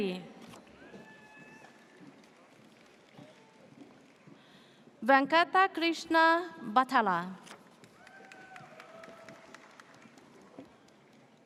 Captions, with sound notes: (audience cheers) Venkata Krishna Batella. (audience cheers)